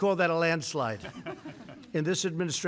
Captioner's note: laughter